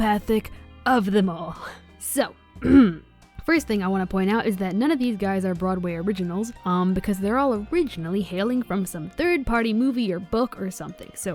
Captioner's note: clears throat